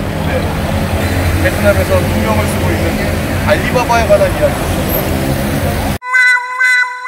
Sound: laughs

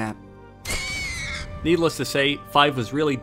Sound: pig screeching

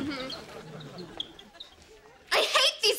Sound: squeaking

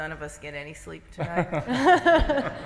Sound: laughter

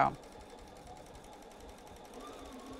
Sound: sewing Machine

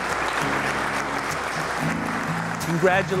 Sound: clapping

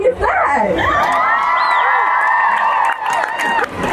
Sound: cheering

